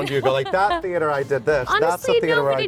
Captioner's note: Lea laughing